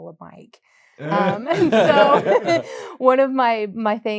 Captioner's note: laughter